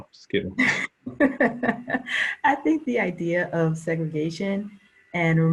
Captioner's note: laughing